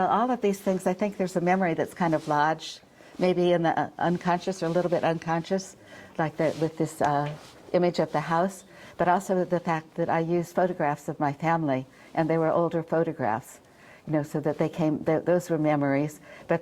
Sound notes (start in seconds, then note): none